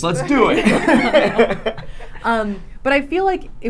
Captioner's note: laughing